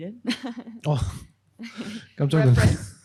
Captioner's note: speaking korean